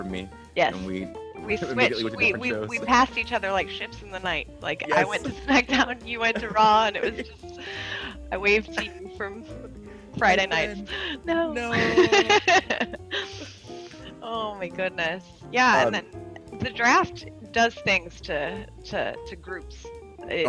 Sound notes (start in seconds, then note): 11.5 laugh